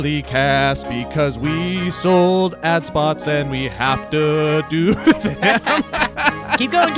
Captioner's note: laughs